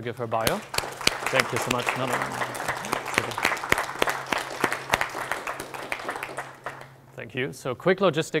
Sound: applause

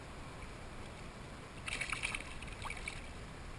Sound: splash!

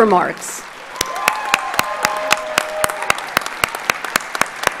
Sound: audience applauds

